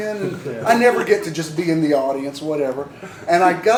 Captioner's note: laughter